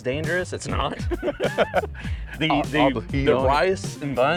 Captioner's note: both laughing